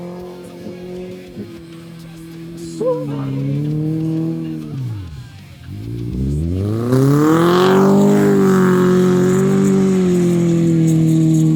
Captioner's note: engine revving